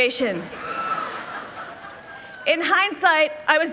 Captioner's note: people laughing